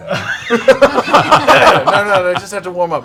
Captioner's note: laughter